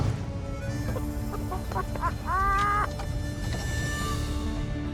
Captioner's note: laughter